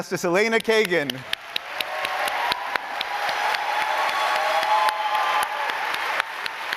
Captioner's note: applauding